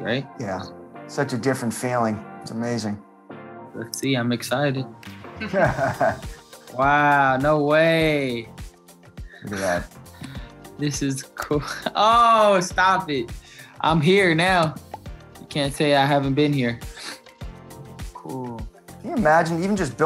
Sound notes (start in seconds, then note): 5.4 laughing